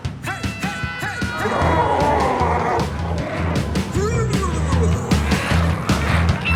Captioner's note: glowzies growling